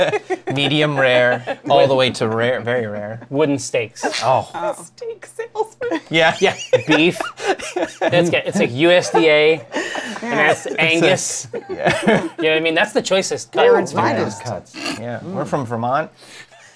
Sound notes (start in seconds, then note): 0.0 laughter; 5.8 laughs